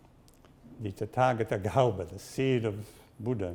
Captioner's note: speaks in Sanskrit